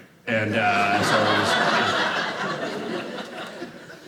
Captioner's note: audience laughing